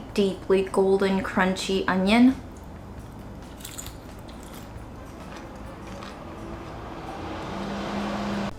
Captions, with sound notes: deeply golden crunchy onion. (crackling sound)